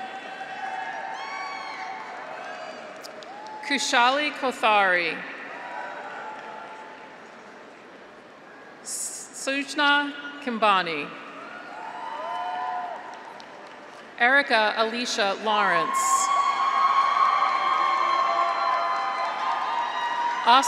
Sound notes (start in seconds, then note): 0.0 graduates cheer; 0.8 audience applauds; 5.4 graduates cheer; 6.1 audience applauds; 11.4 graduates cheer; 12.1 audience applauds; 15.6 graduates cheer; 16.5 audience applauds